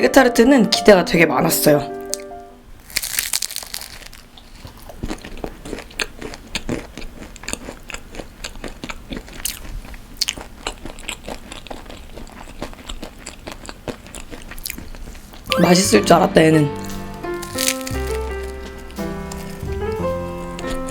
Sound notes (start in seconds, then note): 2.8 crunchy